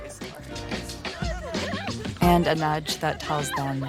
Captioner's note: teens laughing